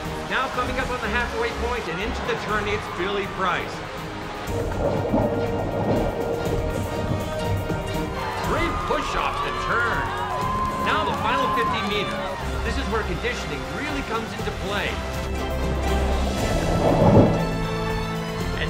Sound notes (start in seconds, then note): 0.0 adventurous music; 4.8 water gurgles; 15.3 adventurous music